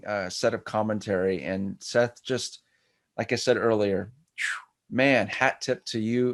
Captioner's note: exhales sharply